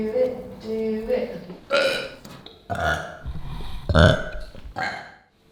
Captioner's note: burping